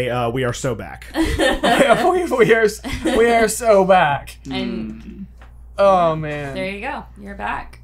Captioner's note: laughter